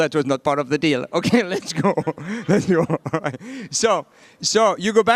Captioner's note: laughing